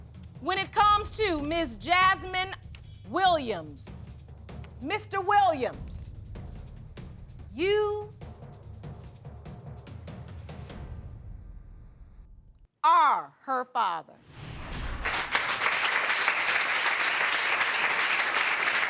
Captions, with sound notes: When it comes to Ms. Jasmine Williams, Mr. Williams, you are her father. (AUDIENCE APPLAUDING)